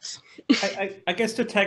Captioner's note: chuckles